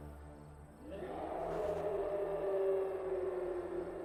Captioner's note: roaring